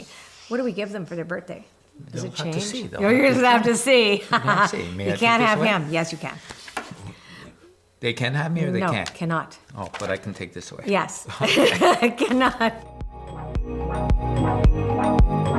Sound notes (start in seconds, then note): 11.2 both laughs; 12.6 upbeat music